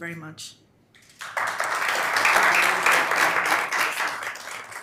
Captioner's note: audience applauding